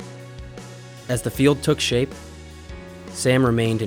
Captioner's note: voiceover